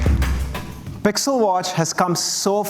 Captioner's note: applause